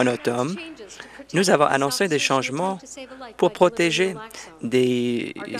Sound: applause

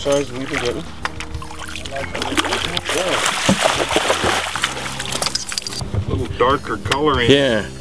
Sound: splashing

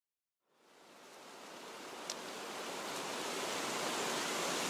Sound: rain pattering

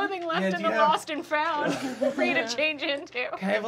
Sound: laughing

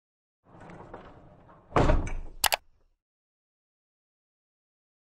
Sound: rolling, slamming and clicking

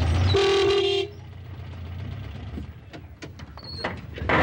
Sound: car honking

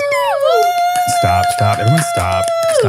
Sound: everyone applauding

